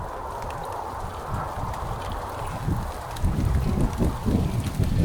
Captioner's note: thunder rumbling